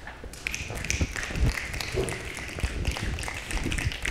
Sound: applause

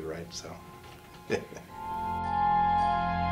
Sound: laughs

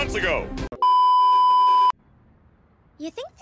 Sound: beep

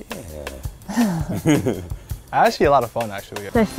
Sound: laughs

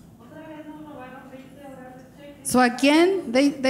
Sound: speaking in foreign language

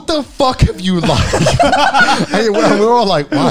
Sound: group laughs

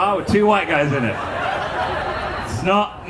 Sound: audience laughing

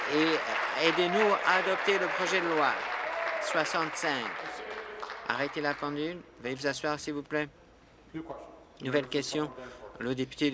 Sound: applause

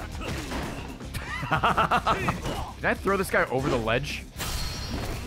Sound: laughs

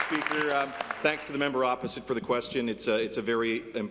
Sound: applause

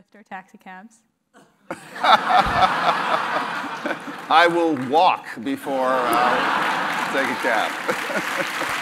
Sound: laugh; applause; laugh

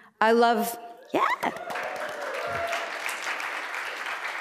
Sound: applause

